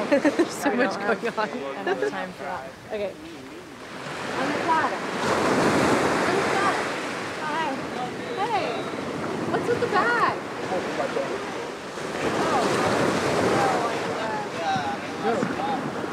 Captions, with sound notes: There's so much going on. - I don't have time for that. Okay. Hi. - Hey. What's with the bag? (all chattering)